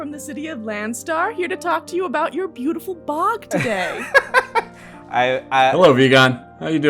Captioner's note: laughter